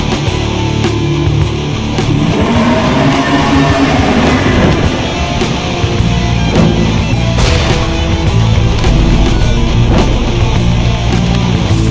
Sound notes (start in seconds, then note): 2.0 beast roars; 7.4 explosion booms